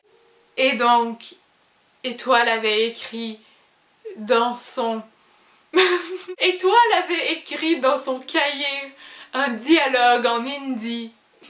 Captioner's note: laughs